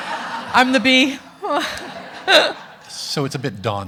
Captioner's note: laughs